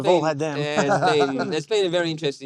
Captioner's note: laughs